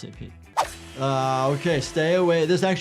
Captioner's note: saw buzzes